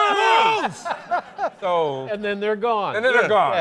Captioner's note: laughs